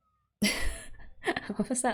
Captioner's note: laughs